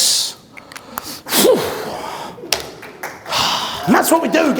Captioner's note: exhales